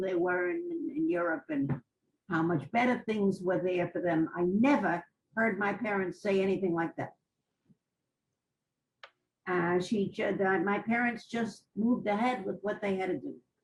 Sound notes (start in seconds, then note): 7.3 pauses for 3 seconds